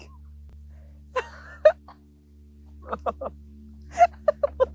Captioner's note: laugh